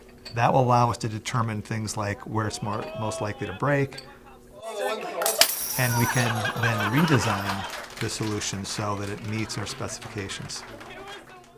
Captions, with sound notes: that will allow us to determine things like where it's most likely to break, (loud crashing noise, laughter) And we can then redesign the solution so that it meets our specifications.